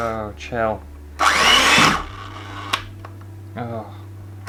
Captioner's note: electric Whisk Noise